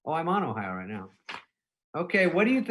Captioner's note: pages rustling